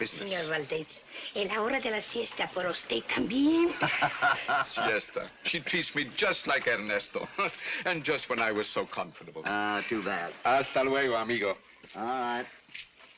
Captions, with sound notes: [ IN SPANISH ] Señor Vadez, it's nap time for you too. [ HOPPY LAUGHS ] Siesta, she treats me just like Ernesto. And just when I was so comfortable. - Oh, too bad. - Hasta luego, amigo. All right.